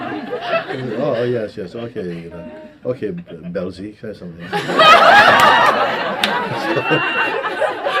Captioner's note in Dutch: gelach